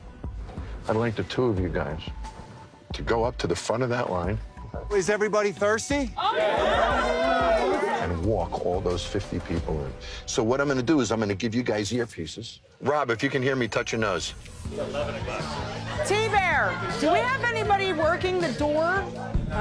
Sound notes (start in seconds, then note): 0.2 light tense music; 6.1 crowd cheering